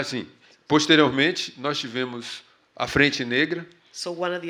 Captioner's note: speaking portuguese